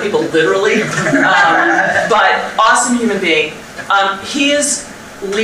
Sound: audience laughter

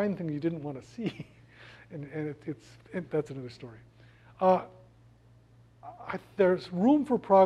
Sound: laugh

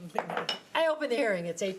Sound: gavel knocking

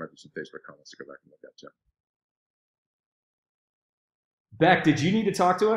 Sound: speaking faintly

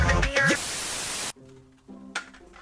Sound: static

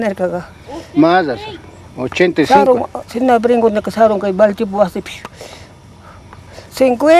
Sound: refutes in Quechua language

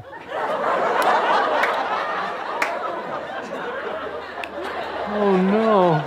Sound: audience laughter

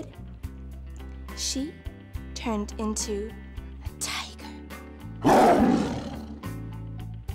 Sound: tiger roar

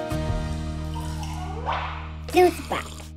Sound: gentle music continues; water gurgles and pops

